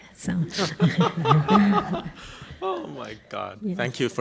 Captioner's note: laughing; voiceover